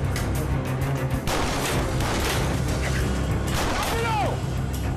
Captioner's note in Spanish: Disparos